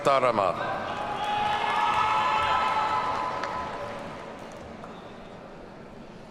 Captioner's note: audience cheers and applauds